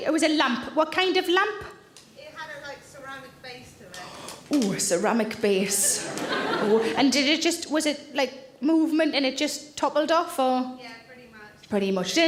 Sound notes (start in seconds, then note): 5.8 audience laughing